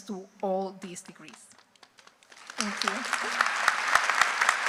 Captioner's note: applause